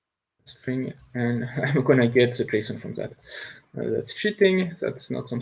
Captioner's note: chuckles